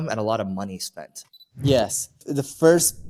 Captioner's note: camera beeps